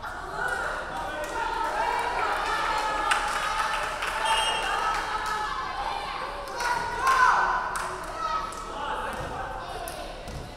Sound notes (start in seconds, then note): 4.2 referee whistling